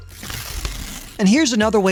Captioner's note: graphics whooshing